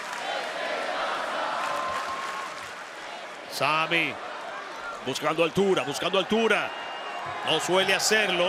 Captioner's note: applause